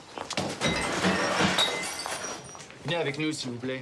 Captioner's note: glass breaking